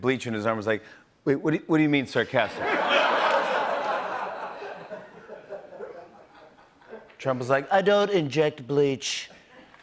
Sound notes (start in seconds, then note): 2.5 laughter